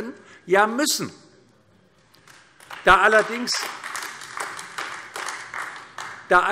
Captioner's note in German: Beifall AfD